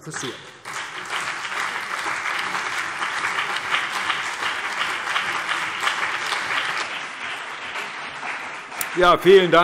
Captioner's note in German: Beifall CDU und BÜNDNIS 90/DIE GRÜNEN